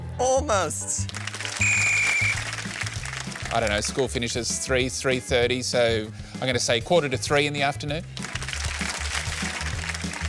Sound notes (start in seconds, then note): 1.6 whistle blows; 8.1 applause